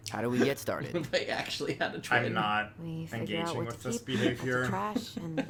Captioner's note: laughs